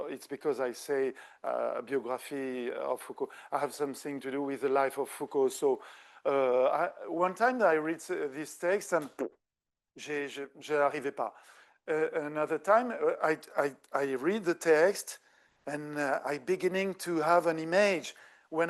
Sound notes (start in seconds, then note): 8.8 lips trilling; 10.1 speaking French